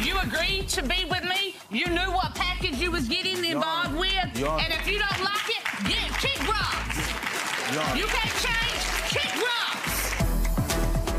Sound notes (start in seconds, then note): 7.2 audience clapping